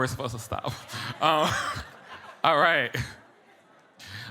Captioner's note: chuckles